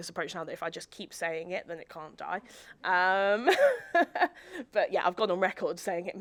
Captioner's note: laughs